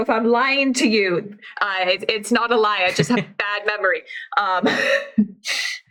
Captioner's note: laughs